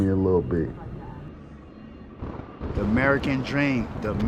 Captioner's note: siren wailing; thunder rumbling